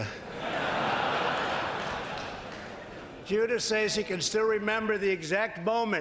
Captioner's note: laughter